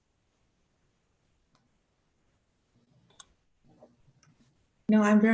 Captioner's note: silence - awaiting response